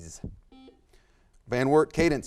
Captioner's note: buzzer buzzes